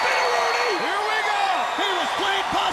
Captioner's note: crowd cheering